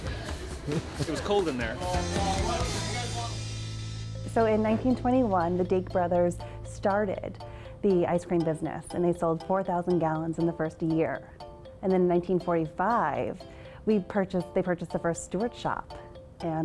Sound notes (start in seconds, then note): 1.8 people chattering